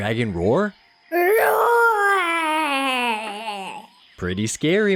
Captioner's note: adorable little roar